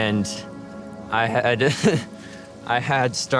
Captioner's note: laughs